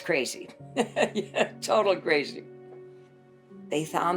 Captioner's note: chuckles